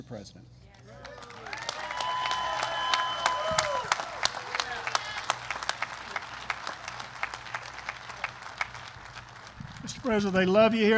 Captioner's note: applause